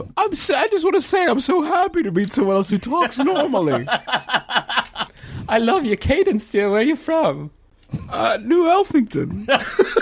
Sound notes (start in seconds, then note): 2.8 Merle laughing